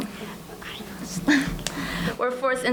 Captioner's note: whispering